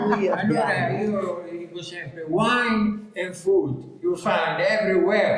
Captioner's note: in English